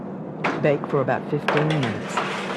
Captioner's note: voiceover